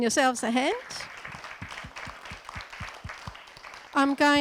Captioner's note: audience and panellists applauding